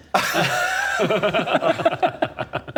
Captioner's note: really intimidated laughter